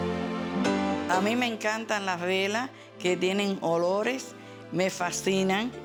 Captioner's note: speaking Spanish